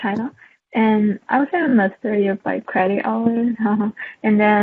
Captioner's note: haha